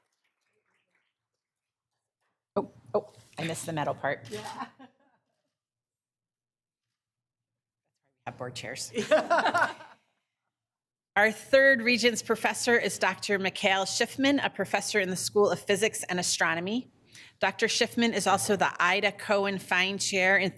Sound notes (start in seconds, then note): 5.2 laughs; 9.0 people laughing